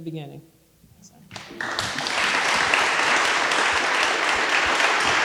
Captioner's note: audience applauding